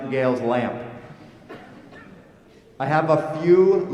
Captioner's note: laughter